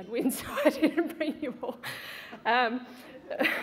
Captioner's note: laughs